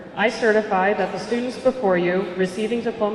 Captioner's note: none